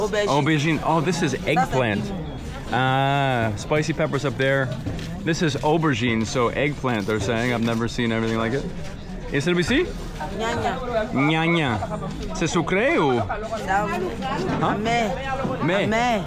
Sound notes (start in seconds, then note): 9.6 people speaking in foreign language